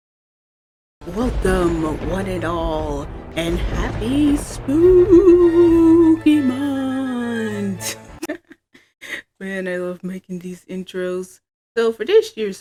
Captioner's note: laughs